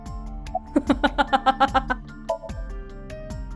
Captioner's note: chuckles